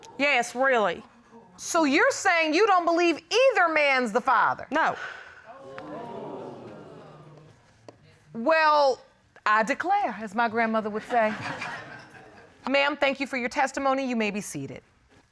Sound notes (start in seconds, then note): 5.5 audience exclaiming; 11.0 audience laughing